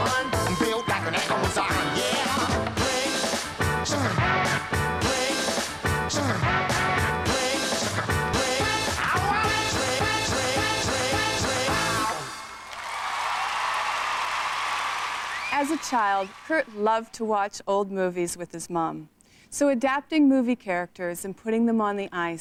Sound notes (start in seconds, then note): 12.4 applause